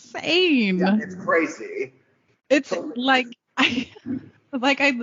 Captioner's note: laughing